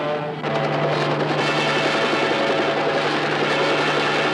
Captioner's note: helicopter whirring